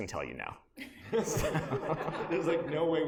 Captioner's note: laughter